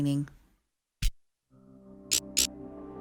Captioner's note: electricity pulsing